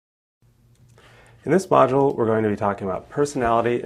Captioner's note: voiceover